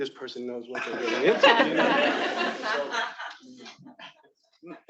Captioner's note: attendees laughing